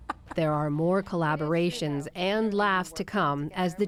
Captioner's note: laughter